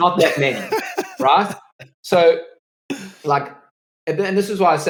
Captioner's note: laughs